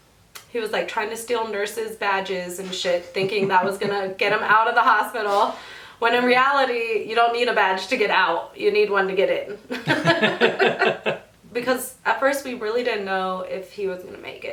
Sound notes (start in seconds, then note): 3.1 laughs; 9.7 both laughing